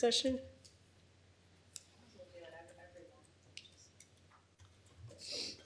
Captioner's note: indistinct conversation